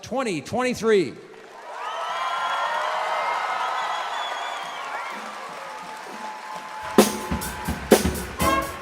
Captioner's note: cheering and Applause